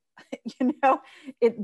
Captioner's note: laughs